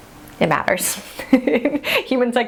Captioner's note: laughing